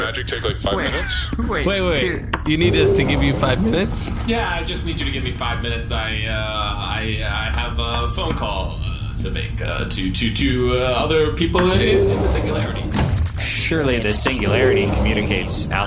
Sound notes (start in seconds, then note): 4.6 nervous